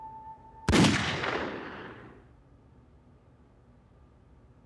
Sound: gunshot

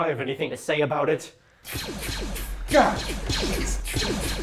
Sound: gun fires

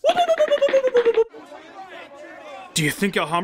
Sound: cartoon footsteps; general urgent chatter

